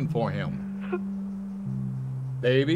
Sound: Emily sobbing

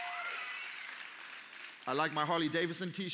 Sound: applause

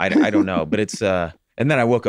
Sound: Rob giggling

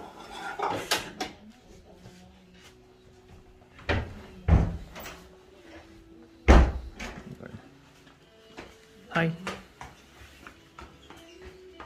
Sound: door sound

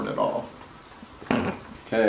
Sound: snorts

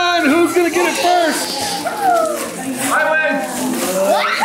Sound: family chatters excitedly; children scream

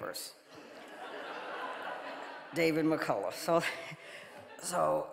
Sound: audience laughing

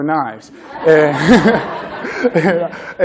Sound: laughter

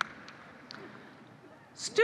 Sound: applause

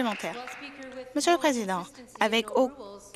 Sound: some Applause

